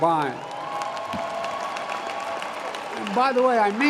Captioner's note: applause